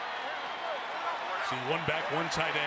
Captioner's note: cheering